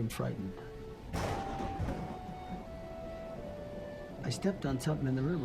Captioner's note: thunder claps